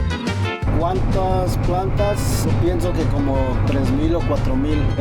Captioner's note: speaking Spanish